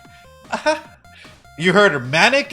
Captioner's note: laughs